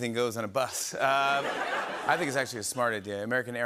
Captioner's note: laughter